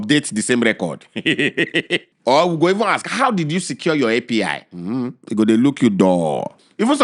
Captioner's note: laughs